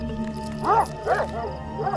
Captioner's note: barking